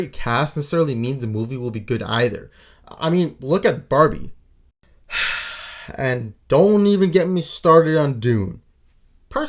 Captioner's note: sigh